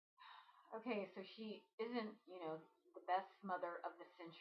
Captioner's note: sigh